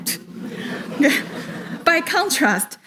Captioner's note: audience laughs